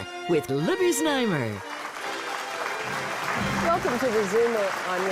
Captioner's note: applause